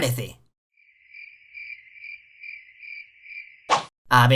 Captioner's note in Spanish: Sonido de grillos